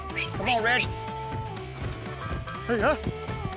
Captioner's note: whistling